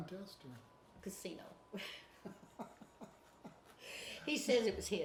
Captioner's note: chuckles